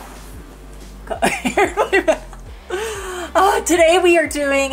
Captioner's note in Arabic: تضحك